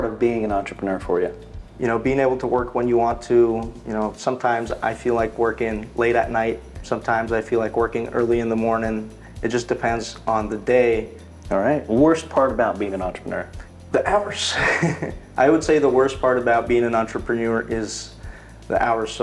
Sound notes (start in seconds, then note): 14.5 chuckles